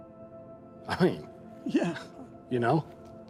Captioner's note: laughs